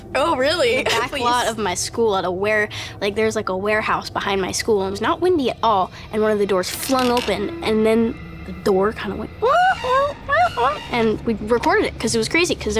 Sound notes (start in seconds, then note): 9.8 creaking sound